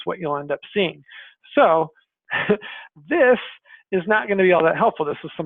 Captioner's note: laughs